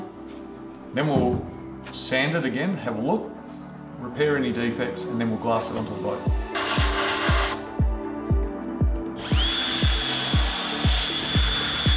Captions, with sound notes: then we'll sand it again, have a look, repair any defects and then we'll glass it on to the boat. (sander whirring) (upbeat music continues)